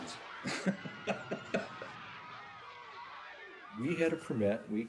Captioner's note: laughing; people screaming